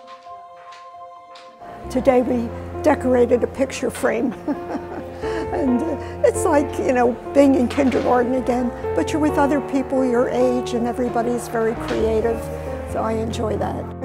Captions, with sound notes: - Today we decorated a picture frame. (laughing) And it's like, you know, being in kindergarten again, but you're with other people your age and everybody's very creative so I enjoy that.